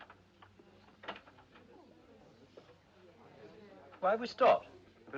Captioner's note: Passageiros tagarelando